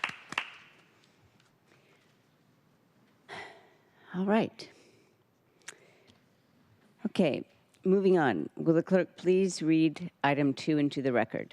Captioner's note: applause